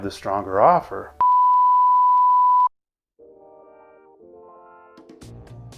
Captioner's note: signal beeping